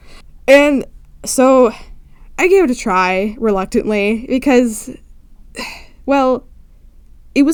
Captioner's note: sigh